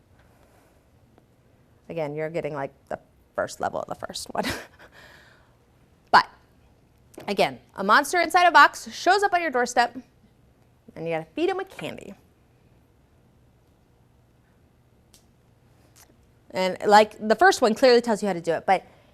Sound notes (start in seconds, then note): 4.4 chuckles